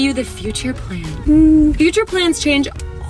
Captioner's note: humming